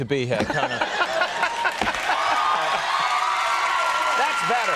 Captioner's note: audience applauding and screaming